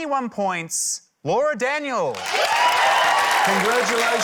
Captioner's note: cheering, applause